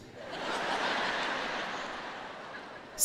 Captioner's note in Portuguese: audiência ri